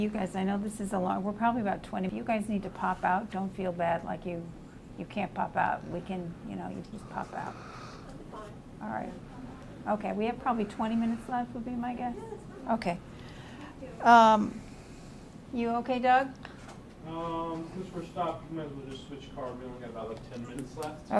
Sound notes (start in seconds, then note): 13.0 pauses for 3 seconds